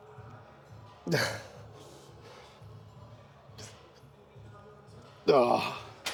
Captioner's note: grunts